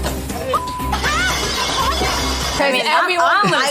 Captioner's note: utensils and plates clank